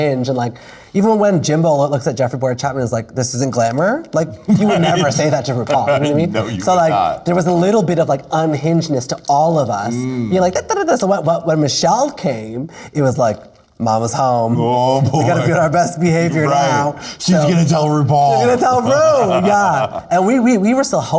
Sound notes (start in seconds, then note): 4.5 laughing